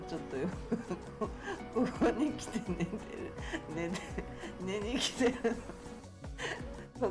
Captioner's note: laugh